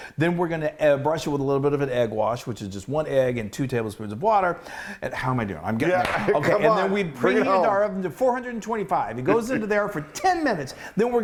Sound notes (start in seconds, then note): 6.0 claps